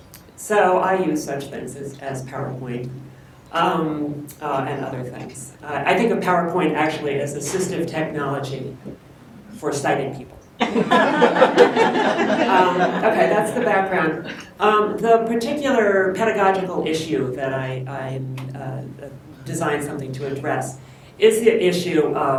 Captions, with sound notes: So I use such things as PowerPoint and other things. I think a PowerPoint is actually assistive technology for sighted people. (Laughter) Okay, that's the background. The particular pedagogical issue that I designed something to address is an issue